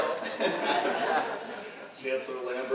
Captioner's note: all laughing